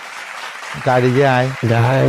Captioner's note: applause